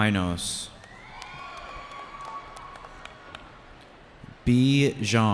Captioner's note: cheering